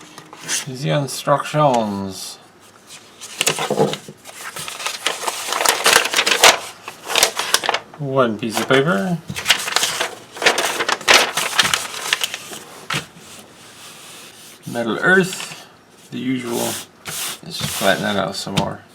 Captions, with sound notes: Ze instructions.. [paper rustles] One piece of paper. [paper rustles] Metal Earth the usual,.. let's flatten that out some more.